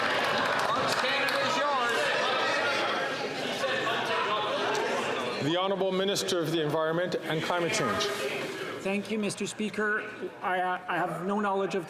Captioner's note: some Applause